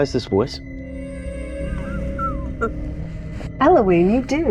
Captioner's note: chuckles